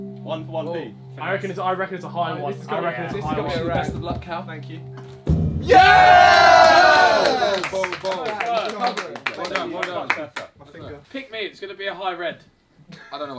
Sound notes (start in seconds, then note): 0.0 tense music continues; 5.0 drum beats; 5.6 all cheering and clapping